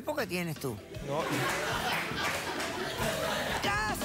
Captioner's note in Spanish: risas